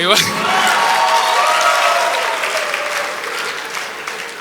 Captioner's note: audience applause